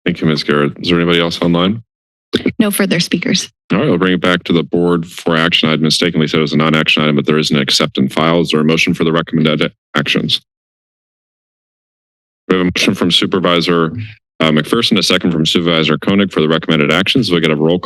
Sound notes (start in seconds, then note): 10.7 silence